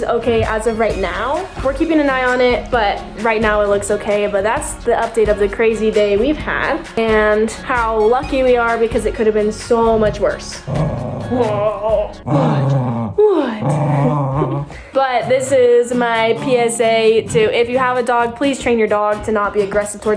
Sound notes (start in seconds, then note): 10.5 dog growls playfully